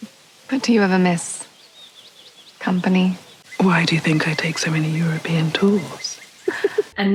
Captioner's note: gasp noise